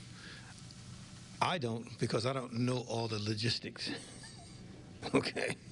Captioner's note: laughs